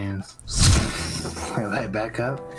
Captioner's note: zzzzOOOOOFFF